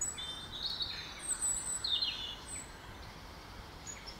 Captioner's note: birdsong